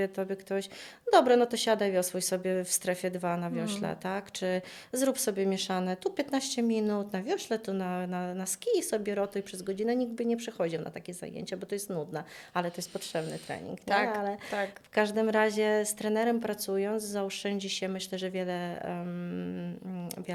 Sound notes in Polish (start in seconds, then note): 14.0 parsknięcie